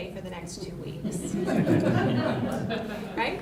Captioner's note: laughter